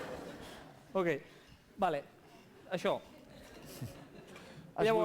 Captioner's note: non-english speech